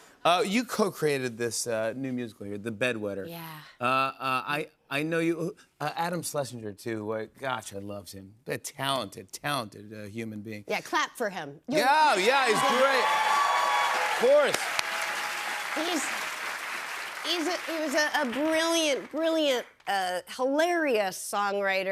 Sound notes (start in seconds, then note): 12.9 cheers and applause